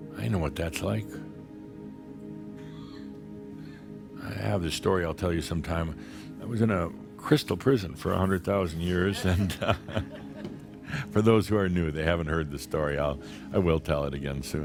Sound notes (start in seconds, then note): 9.0 Adamus chuckles